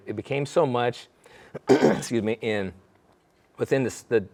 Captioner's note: coughing